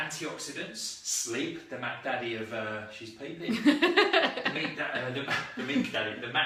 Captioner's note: laughs